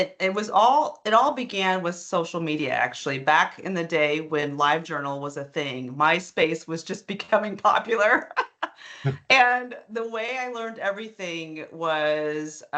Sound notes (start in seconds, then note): 8.9 laughing